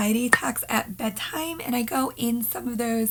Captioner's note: pop